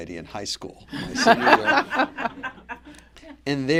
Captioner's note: laughter